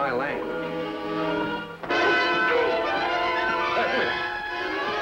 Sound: dramatic music; Barney grunting

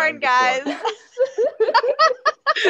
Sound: laughs

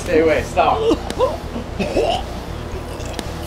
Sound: choking and coughing

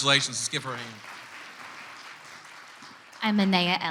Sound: clapping

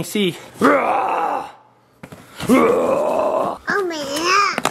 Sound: imitating dinosaur roaring

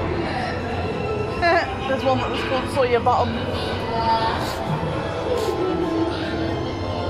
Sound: laughs

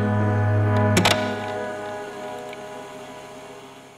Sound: tape recorder clicks on, static

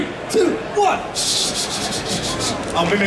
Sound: audience chattering

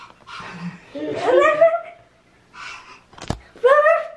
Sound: panting; barking

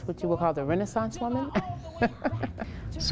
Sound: laughs

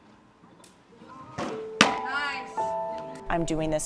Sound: softball hits mit

